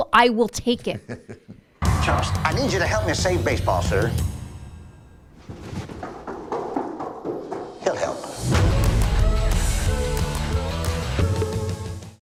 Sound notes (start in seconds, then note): 0.9 laughing; 5.3 heavy running; 8.4 dramatic music